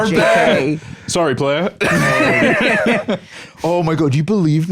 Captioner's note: all laughing